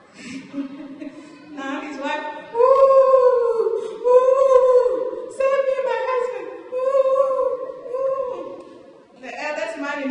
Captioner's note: laughter